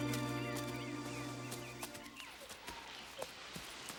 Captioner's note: birds chirping